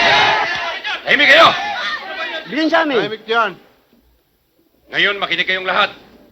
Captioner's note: speaking in foreign language